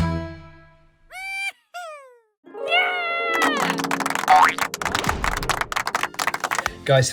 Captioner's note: cheering and applauding